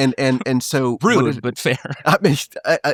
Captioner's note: laughing